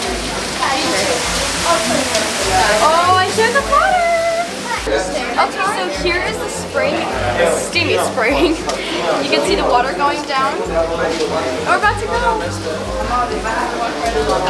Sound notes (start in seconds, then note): 7.9 laughing